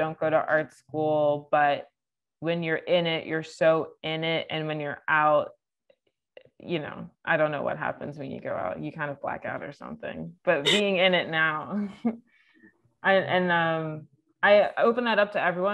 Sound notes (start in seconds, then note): 10.6 laughing